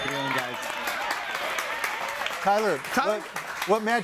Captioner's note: audience applauding